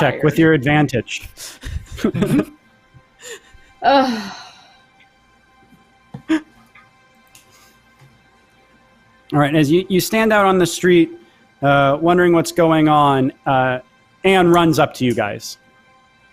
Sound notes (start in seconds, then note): 1.8 all laughs; 3.2 sighs; 6.2 laughs